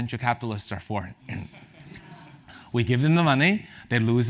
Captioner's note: laugh